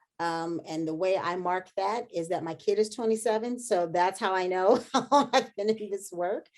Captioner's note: laughter